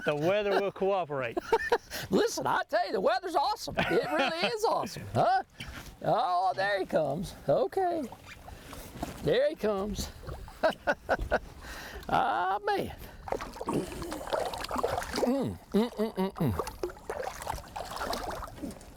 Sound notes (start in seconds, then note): 10.9 laughs